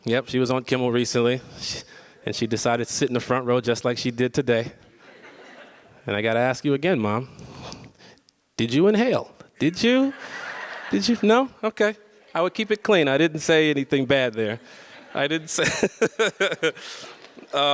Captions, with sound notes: Yep, she was on Kimmel recently and she decided to sit in the front row just like she did today. (audience laughs) And I gotta ask you again, mom, did you inhale? Did you? Did you, no? (audience laughs) Okay. I would keep it clean. I didn't say anything bad there. I didn't say... (laughs)